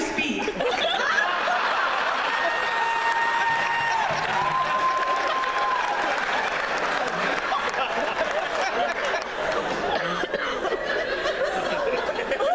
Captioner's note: laughter